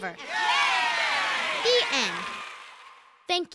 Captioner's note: cheering